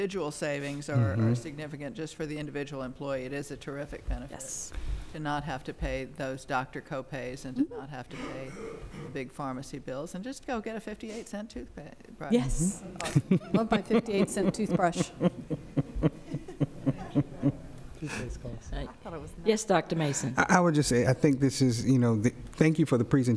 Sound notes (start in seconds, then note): 15.9 laughter